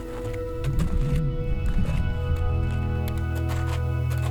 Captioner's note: sound of wind; music building